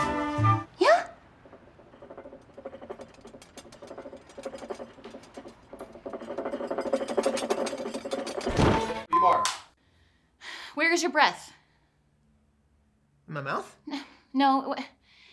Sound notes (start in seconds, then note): 4.0 plates clattering